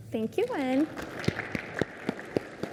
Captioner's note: applause